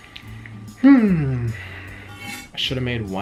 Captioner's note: sighs